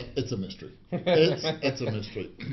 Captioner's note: laughs